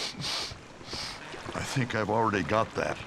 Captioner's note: sniffing